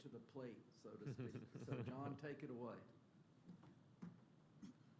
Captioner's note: laughter